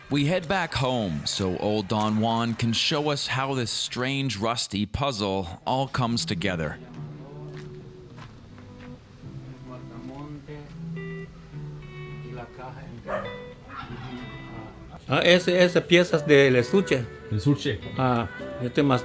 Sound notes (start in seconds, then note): 15.2 speaking Mayan; 17.5 speaking Spanish; 18.8 speaking Mayan